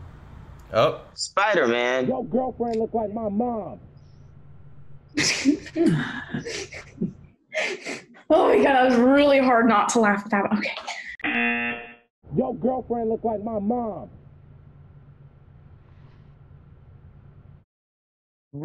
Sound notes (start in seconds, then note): 5.1 Xochitl laughs; 11.2 buzzer rings